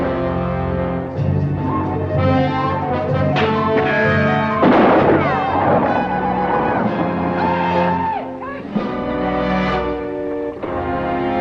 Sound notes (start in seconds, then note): 0.1 dramatic orchestral music; 4.0 Apaches howl; 4.5 guns fire; 4.5 bullet ricochets